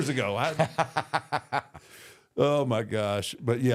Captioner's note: Michael Hayes laughs